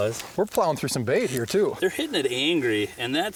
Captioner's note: voiceover